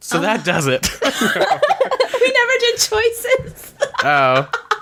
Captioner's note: laughs